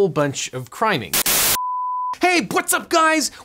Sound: TV static; beep

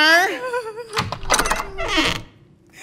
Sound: door opens

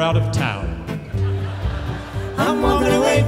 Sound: audience laughs

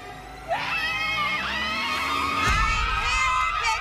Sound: screaming

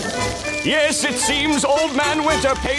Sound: none

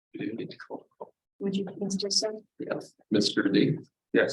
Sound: voice distorts

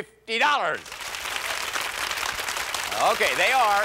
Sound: applause

